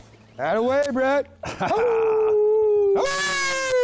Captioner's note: howls